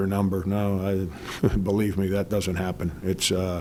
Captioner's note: laughs